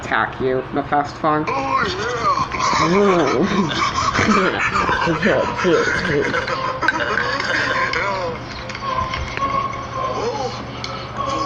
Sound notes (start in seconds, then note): 3.1 starts Laughing; 4.9 also Start Laughing; 9.0 intense Music